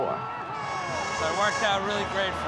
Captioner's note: horns blaring